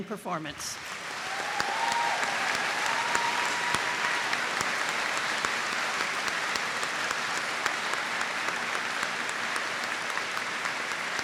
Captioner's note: applause